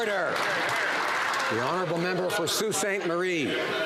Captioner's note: some Applause